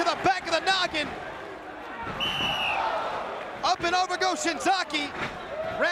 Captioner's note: applause